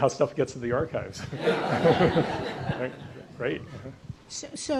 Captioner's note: audience laughs